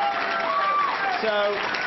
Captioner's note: applause